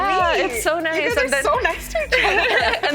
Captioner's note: general laughter